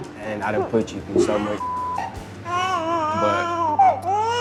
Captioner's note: beep